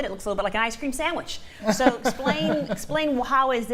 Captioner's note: laughter